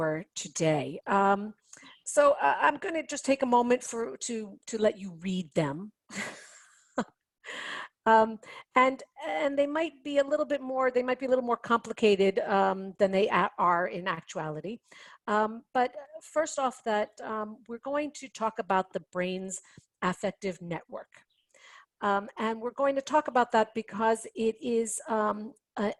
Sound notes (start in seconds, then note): 6.1 chuckling